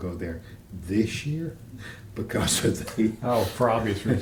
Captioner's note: laughter